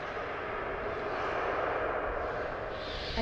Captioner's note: distant ghostly voices